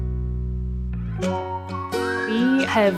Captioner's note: whistling